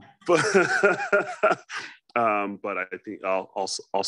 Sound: laughs

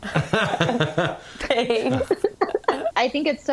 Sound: laughter

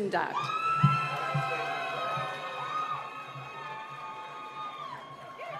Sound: cheering and applause

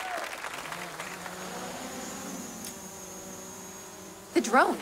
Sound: audience cheering, applauding; whirring

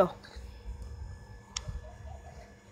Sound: click

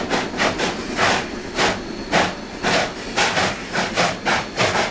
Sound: slow, barking chugs of locomotives

